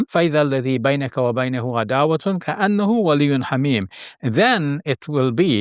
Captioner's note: speaking in foreign language